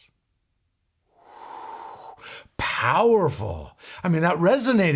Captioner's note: inhales